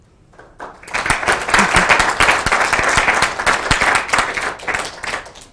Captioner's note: audience applauding